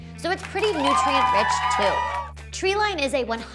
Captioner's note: cheering